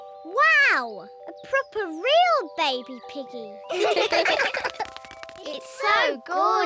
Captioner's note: all laugh